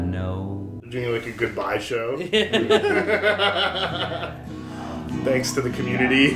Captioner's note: laughter